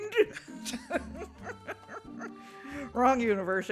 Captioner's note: stiffled chuckles